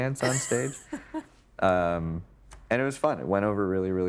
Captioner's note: chuckling